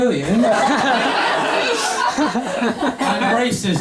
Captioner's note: laughter